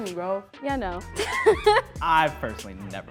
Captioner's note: laughs